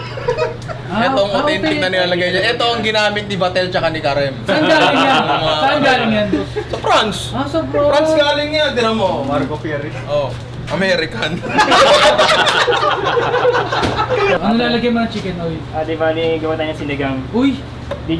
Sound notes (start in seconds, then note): 4.5 laughter; 11.4 laughter